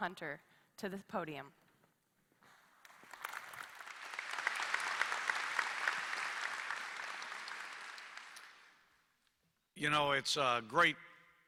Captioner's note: applause